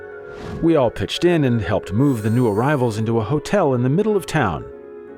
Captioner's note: zoom sound